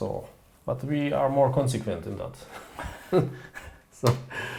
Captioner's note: chuckling